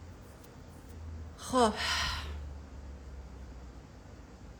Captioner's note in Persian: صدای آه